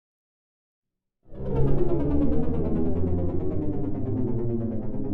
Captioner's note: aircraft whirring